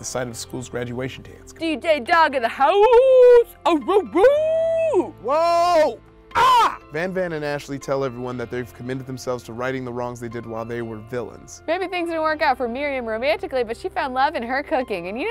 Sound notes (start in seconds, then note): 4.1 howls; 6.3 screams